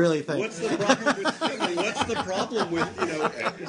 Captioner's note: laughter